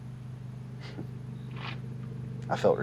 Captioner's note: chuckles